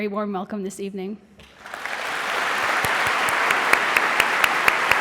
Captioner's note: audience applauding